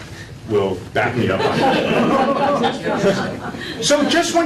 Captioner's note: laughter